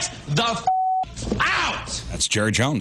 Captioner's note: beep